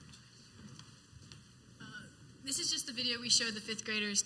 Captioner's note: footsteps